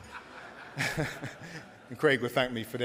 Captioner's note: laughter